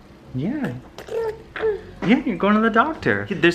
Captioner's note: babbling